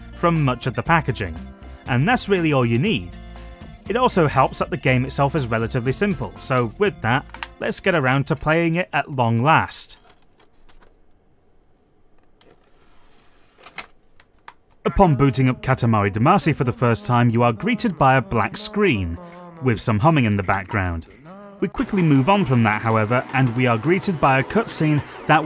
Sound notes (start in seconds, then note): 10.5 disc insertion noises